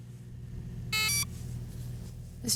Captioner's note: VPN beeps